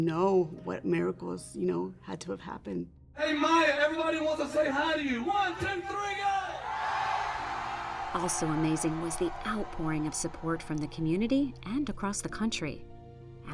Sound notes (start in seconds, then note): 6.6 applause